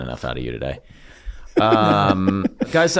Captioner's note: Rob laughs